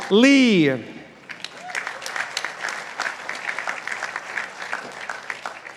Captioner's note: participants applauding